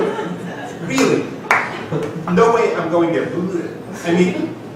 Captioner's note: repulsed sounds